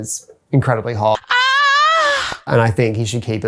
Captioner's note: moan